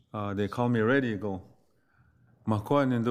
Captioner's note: speaks foreign language